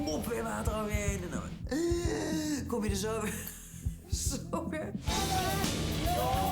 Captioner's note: gasping for air